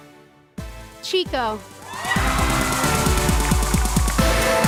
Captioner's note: cheers and applause